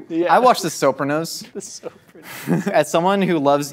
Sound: laughing

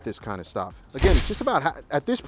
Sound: shutter snaps

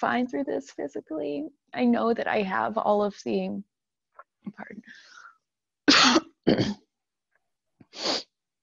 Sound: pauses to cough

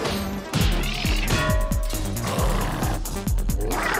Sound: Spirit Cat squeal; clattering

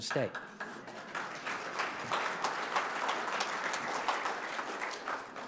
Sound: audience applauding

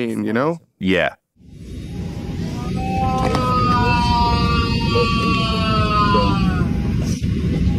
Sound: airplane cabin noise, loud prolonged moan

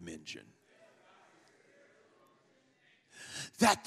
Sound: congregation muttering

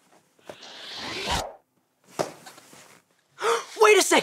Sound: picture wooshes

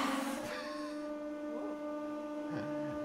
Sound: laughing

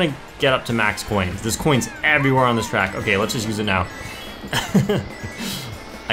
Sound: laughs

